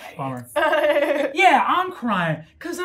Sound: gamer laughing

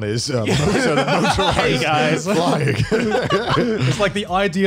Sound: murmurs

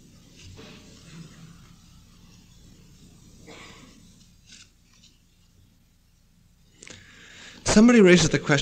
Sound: pause

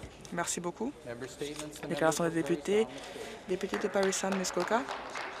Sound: applause

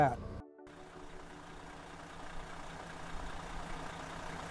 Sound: car engine roaring

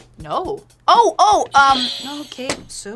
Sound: bell rings

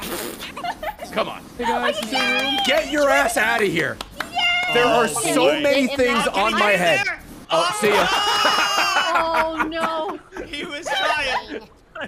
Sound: laughs

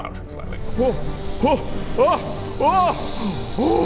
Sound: inflating noises

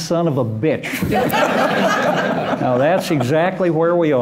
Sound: laughter

